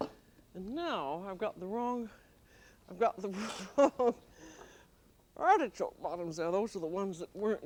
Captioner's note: laughs